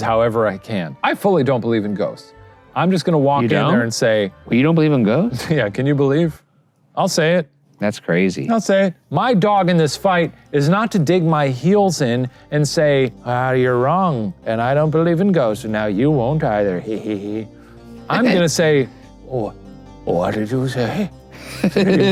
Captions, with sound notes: however I can. I fully don't believe in ghosts. I'm just gonna walk down there and say- - You don't? You don't believe them ghosts? - Yeah. Can you believe? I'll say it. - That's crazy. - I'll say my dog in this fight is not to dig my heels in and say, "Ah, you're wrong, and I don't believe in ghosts. And now you won't either." (evil laugh) I'm gonna say, "Oh, what did you say?"